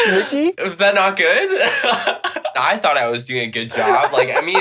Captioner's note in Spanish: risas